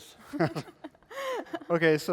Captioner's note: laughter